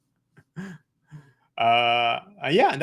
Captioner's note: chuckles